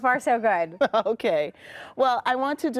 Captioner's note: laughing